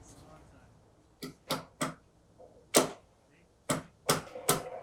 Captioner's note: hammer striking